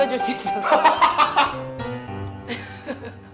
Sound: hahahaha

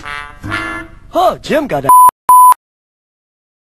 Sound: beep

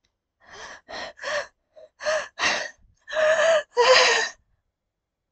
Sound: hyperventilating

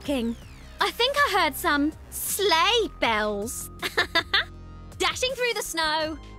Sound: laughs

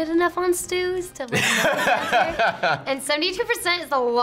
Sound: laughs

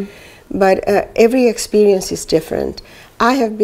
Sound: none

